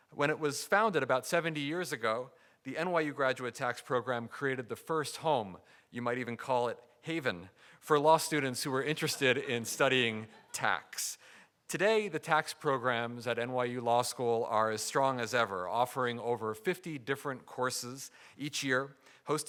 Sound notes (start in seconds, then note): 8.6 audience chuckling